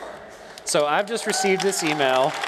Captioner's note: cheers and applause